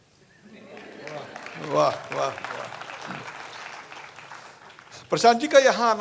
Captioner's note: applause